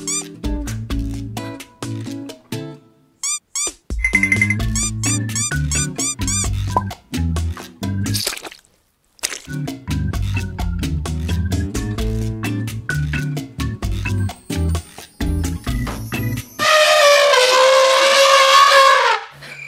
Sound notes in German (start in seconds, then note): 0.0 Bossa-Nova-Musik; 3.9 Bossa-Nova-Musik; 4.4 Quietschgeräusche; 8.1 Kackgeräusch; 9.6 Bossa-Nova-Musik; 16.6 Elefant trompetet